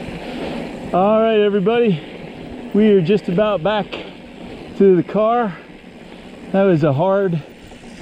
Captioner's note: wind noise; bike gears whirring